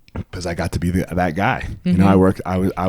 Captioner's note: none